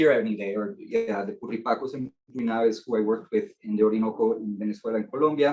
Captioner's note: speaking Spanish